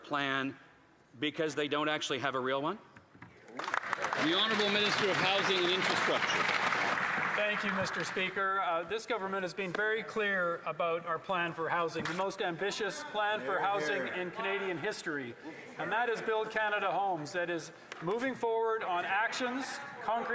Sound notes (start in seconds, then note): 7.5 some Applause